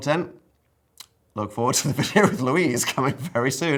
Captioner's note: chuckles